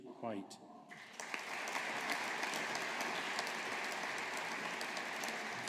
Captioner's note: audience applauding